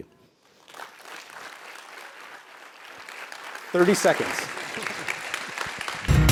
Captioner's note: applause